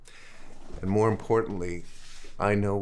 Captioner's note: none